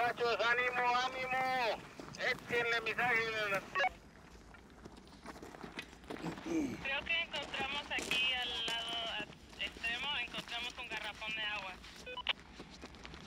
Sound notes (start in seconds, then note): 0.1 man on radio speaks Spanish; 7.1 woman on radio speaks Spanish